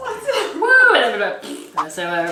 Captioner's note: blows raspberry